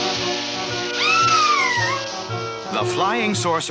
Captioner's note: Sweet Polly Screams